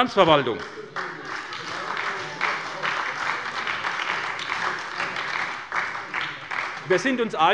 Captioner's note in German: Beifall bei der SPD